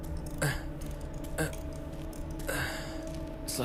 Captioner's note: Groans